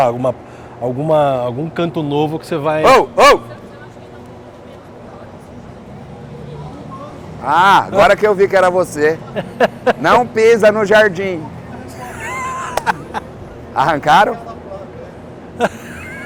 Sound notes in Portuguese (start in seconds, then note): 11.9 risos